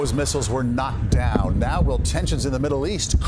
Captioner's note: explosion